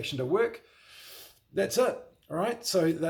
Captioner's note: inhales sharply